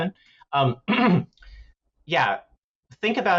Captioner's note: clears throat